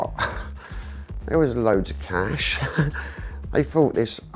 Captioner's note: chuckles